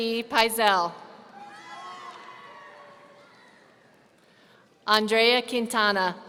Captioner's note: audience cheering